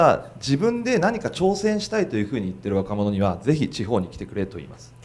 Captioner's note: speaking foreign language